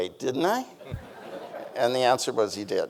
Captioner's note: audience laughing